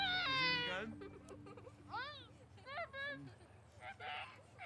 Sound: kids laughing

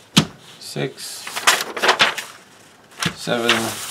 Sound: rusting paper

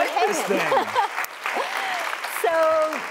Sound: applause

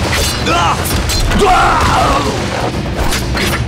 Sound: grunting

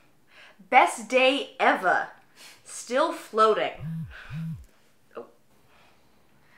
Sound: Rose's cell phone vibrates again

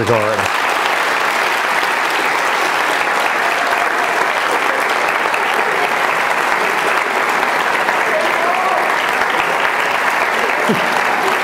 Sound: applause

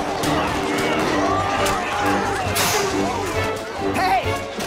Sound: tires screeching; all grunting

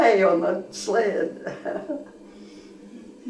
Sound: laughter

